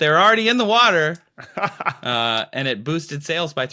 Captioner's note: laughs